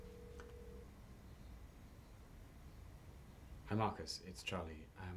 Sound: line ringing

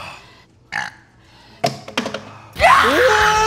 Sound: burping; both screaming

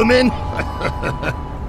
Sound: laughs

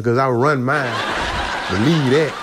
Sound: laughs

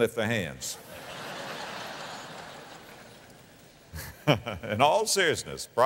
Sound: audience laughter

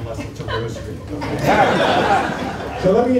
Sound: laughter

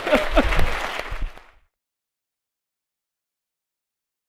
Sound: applause

